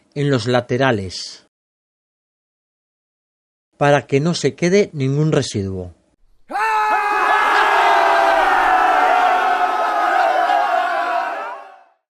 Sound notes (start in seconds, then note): 6.4 shouts of joy at reaching 1,000 subscribers